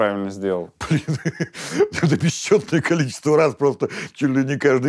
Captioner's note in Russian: смеется